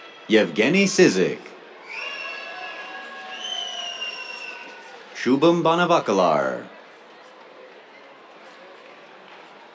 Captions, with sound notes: Evgenii Sizykh. [CHEERS, WHISTLES] Shubham Banavalikar. [APPLAUSE]